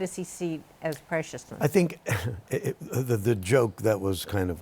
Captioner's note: chuckles